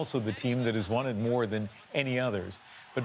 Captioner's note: cheers and Applause